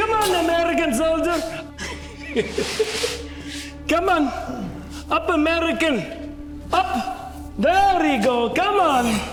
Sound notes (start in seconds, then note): 1.3 Siegmund laughing